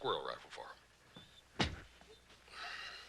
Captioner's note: thump